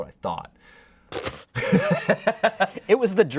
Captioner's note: laughs